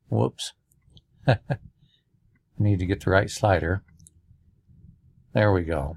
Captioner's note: laughter